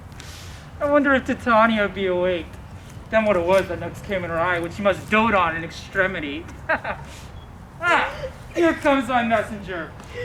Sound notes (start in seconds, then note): 7.8 laughs